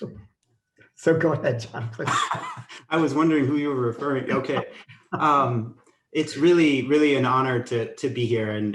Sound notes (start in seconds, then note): 1.4 laughing